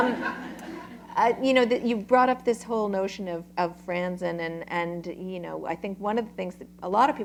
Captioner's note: laughter